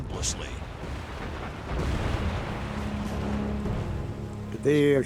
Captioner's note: explosions